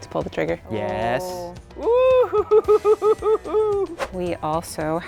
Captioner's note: laughs